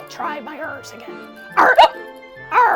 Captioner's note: hiccups